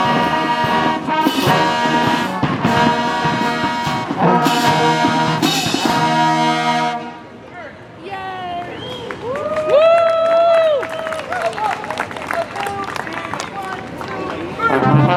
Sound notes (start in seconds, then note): 6.9 song ends; 8.6 crowd cheering and applauding; 14.2 marching band playing